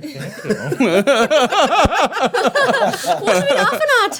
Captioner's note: everyone laughing